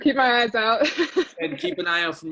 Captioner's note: laughs